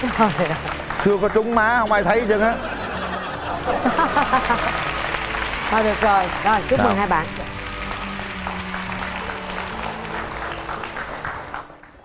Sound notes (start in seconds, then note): 3.4 applause; 7.7 applause